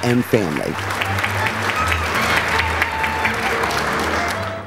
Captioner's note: applause